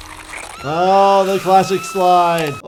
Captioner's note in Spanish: risas grita